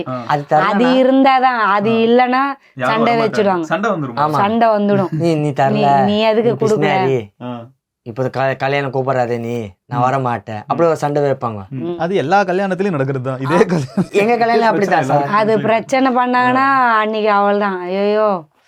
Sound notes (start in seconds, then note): 13.4 laughs